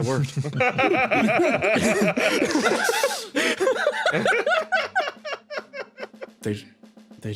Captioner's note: laughs